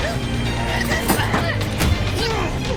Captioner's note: silverware rattling